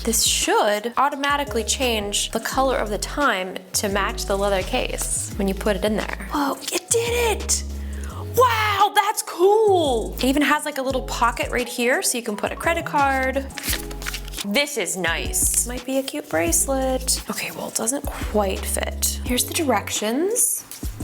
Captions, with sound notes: This should automatically change the color of the time to match the leather case when you put it in there. Wow, it did it! Wow, that's cool! It even has like a little pocket right here, so you can put a credit card. (paper rustles) This is nice. This might be a cute bracelet. Okay well, it doesn't quite fit. Here's the directions.